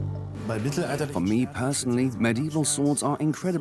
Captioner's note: in German; dubbed in English